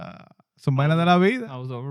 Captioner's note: non-english Speech